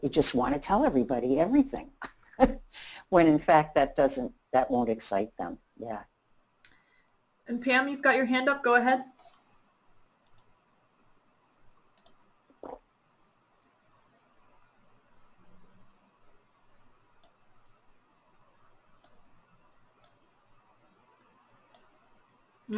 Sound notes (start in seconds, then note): 9.2 silence